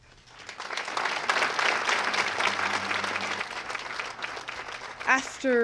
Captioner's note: applause